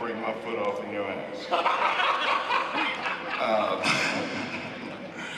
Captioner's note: laughs